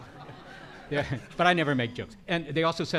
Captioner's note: chuckles; audience laughing